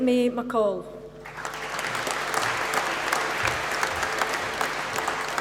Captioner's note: applause